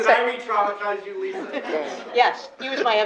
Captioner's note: laughter